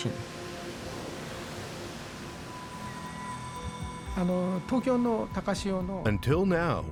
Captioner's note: speaking Japanese